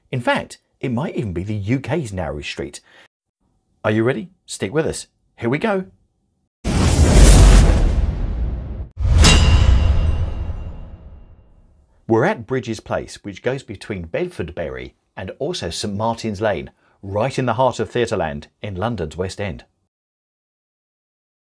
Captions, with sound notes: In fact, it might even be the UK's narrowest street. Are you ready? Stick with us. Here we go. (dramatic music) (logo clanging) We're at Brydges Place, which goes between Bedfordbury and also St Martin's Lane right in the heart of theater land in London's West End.